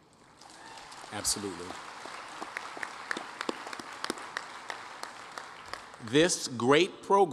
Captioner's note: applause